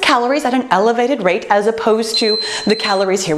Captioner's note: beeping